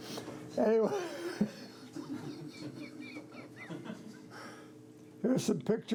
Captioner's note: laughter